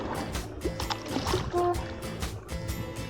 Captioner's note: upbeat indie music & paddling; honking